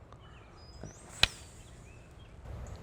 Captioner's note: clicks